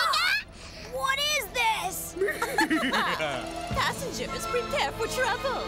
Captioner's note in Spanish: gritan